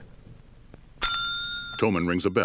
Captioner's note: bell dings